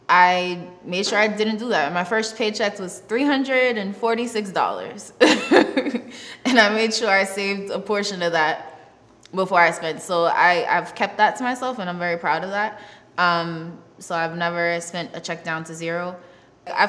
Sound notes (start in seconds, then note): 5.2 laughs